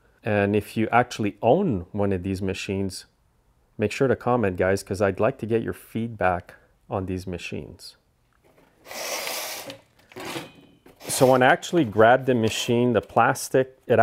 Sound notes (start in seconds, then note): 8.8 table squeaks